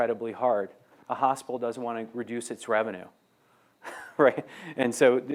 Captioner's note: laughs